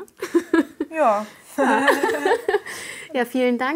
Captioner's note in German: Lachen